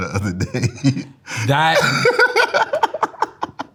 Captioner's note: laughs